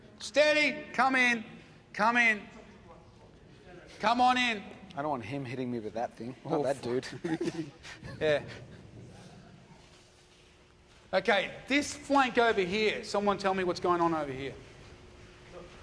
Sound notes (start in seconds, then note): 6.9 laughing